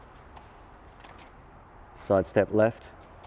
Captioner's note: clicking